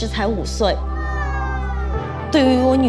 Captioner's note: daughter exclaiming